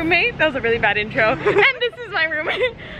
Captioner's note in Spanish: ambos riéndose